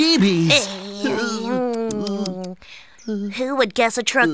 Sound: Tori clicks tongue

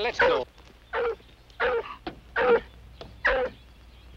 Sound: barking

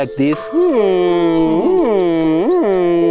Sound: impression of gorilla noises

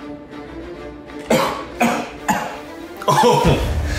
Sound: coughs

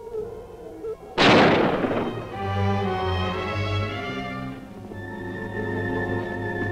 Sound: gun firing; tense music

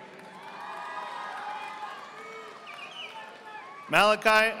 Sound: audience applauding

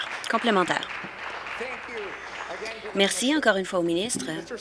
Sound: applause

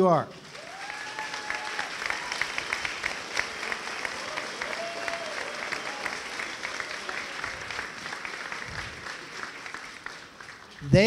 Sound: applause and cheering

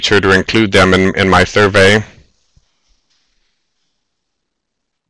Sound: silence

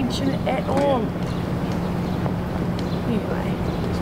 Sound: birds chirping, wind

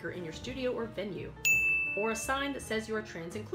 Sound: bell ding

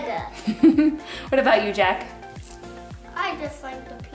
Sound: chuckling

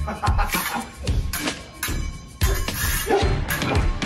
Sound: delighted laugh; clang, clang, clang

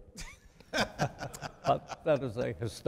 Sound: chuckling

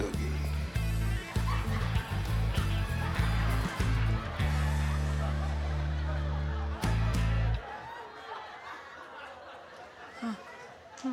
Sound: laughter

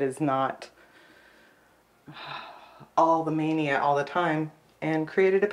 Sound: sighs

